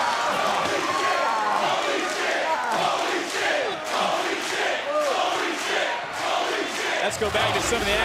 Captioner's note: crowd chants "holy --"